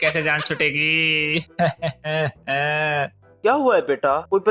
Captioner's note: crying in pain